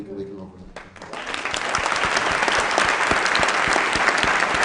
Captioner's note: applause